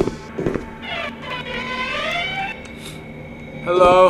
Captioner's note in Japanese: 扉が開く音